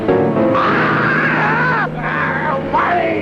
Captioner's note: Alex screaming